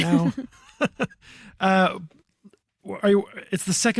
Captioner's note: chuckles